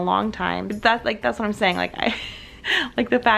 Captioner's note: laughs